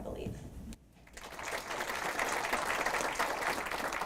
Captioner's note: applause